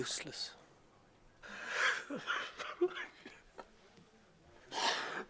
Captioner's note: sollozando